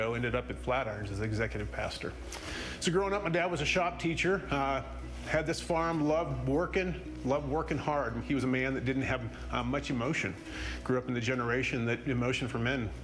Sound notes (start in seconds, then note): none